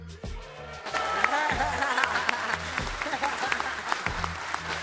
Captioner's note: audience applauding; laughs; upbeat music